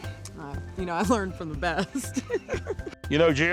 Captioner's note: laughter